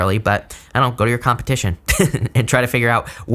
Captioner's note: laughs